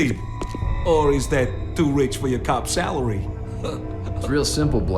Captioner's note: chuckles